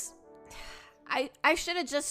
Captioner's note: sigh